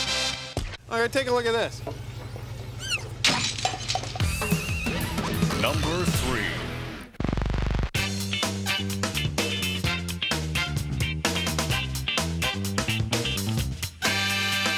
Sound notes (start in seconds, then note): 3.2 glass shattering; 5.8 glass shattering